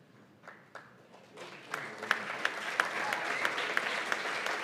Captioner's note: applause